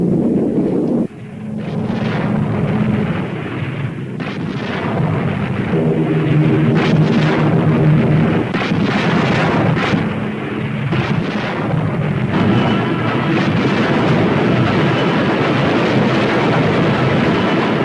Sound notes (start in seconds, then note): 1.0 plane engine revving; 8.5 cannons firing; 10.9 explosions booming; 14.5 suspenseful music